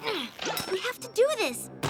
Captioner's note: grunts